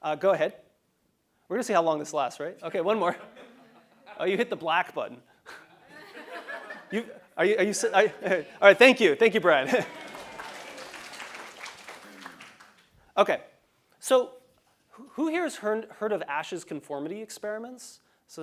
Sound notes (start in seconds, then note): 5.5 laugh; 9.6 applause